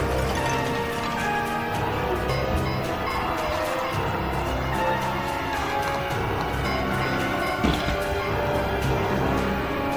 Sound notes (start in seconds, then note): 0.1 glass shattering; 2.3 zombies groaning